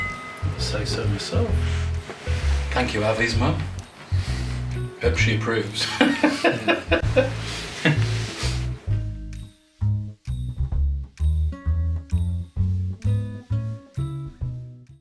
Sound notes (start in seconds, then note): 5.8 laughs; 10.2 light, whimsical music